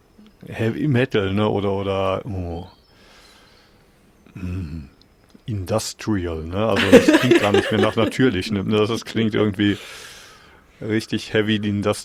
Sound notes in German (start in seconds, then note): 4.4 räuspern; 6.7 gelächter